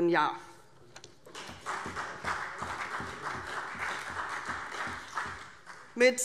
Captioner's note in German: Beifall CDU, BÜNDNIS 90/DIE GRÜNEN und vereinzelt SPD